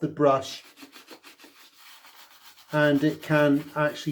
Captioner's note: brush scrubbing